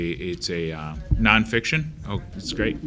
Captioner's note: woman speaks faintly